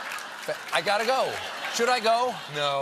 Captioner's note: laughter